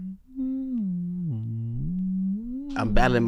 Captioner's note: humming